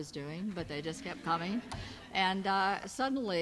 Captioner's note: audience laughs